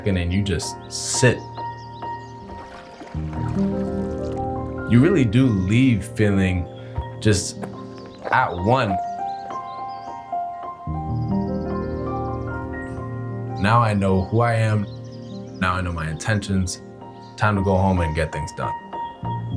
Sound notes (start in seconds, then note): 2.4 lake water flowing; 6.6 boots walking on gravel